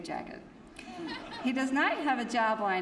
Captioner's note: laughter